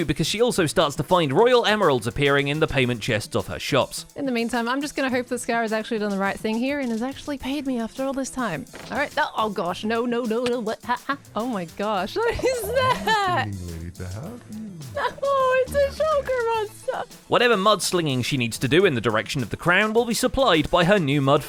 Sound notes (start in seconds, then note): 12.2 laughs